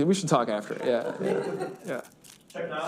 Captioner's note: students laugh